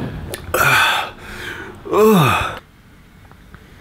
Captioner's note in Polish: sapie głośniej